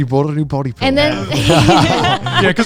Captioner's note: all laughing